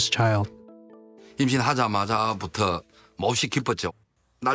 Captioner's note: speaking Korean